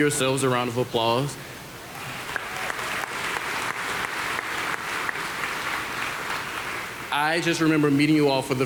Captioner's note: applause